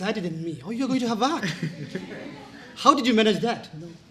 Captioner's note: laughter